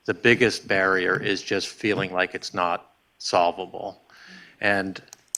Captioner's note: none